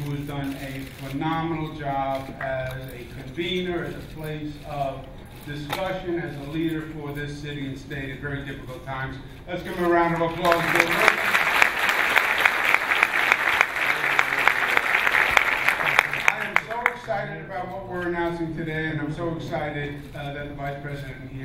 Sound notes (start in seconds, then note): 10.4 clapping